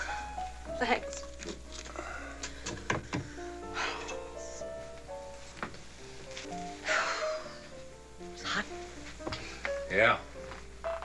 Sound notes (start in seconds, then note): 3.0 exhales; 6.6 sighs